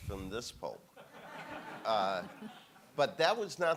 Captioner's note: audience laughing